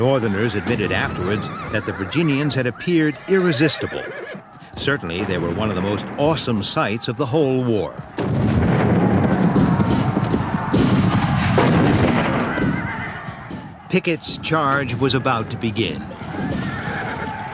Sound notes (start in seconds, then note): 8.0 booming; 9.0 shouting